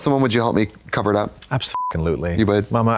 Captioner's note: beep